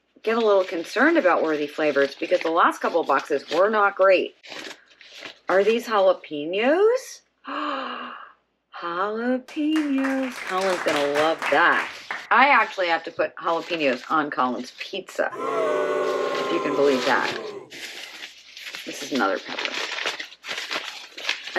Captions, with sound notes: get a little concerned about Worthy Flavors because the last couple of boxes were not great. Are these jalapeño peppers? Ah, jalapeños. [applause] Colin is going to love that. I actually have to put jalapeños on Colin's pizza. If you can believe that? [booing crowd] This is another pepper.